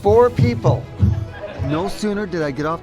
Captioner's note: audience laughing